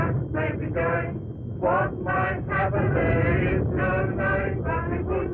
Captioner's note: explosions